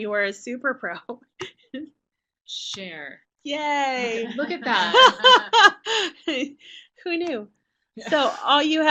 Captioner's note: laughter